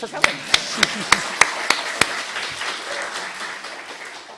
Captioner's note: audience clapping